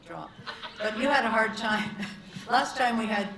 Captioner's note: giggles